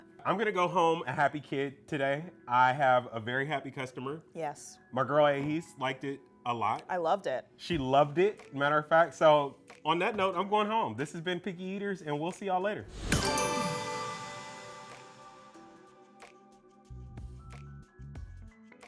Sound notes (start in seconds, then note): 12.9 graphic swooshing; 16.0 upbeat music